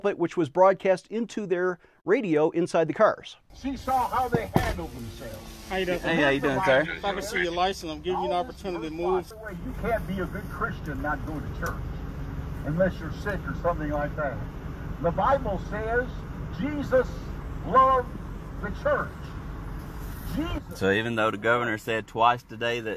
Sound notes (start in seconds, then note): 4.2 knocking